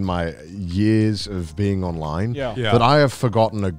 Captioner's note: none